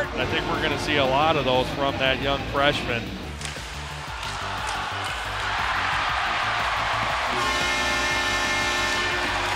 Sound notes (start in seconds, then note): 3.4 crowd cheering; 4.0 shuffling; 7.4 hooting